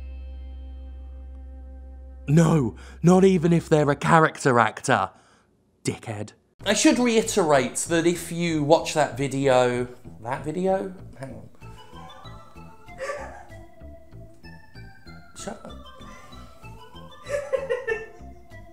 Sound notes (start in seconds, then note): 10.1 quietly; 13.0 laughing; 15.0 quietly; 17.2 laughs more